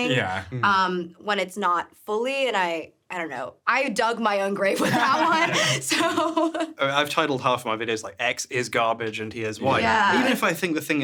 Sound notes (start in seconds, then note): 4.8 laughs; 4.8 laughing